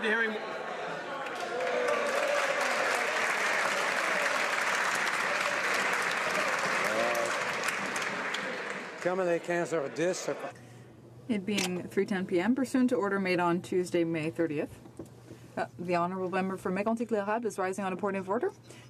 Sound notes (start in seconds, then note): 6.1 some Applause